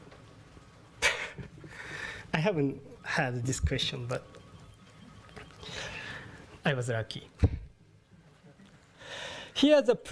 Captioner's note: laugh